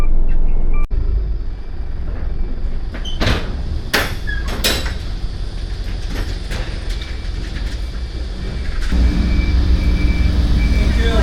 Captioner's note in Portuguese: Som de motociclo